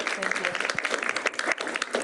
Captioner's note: applause